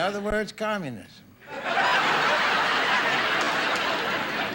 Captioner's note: audience laughing